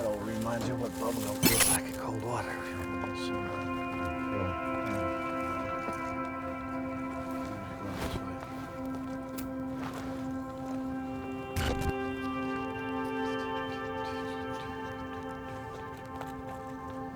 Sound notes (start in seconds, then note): 10.6 footsteps crunch; 10.6 somber music